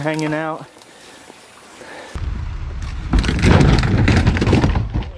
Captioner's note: boat crashes